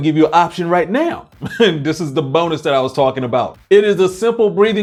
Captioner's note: chuckles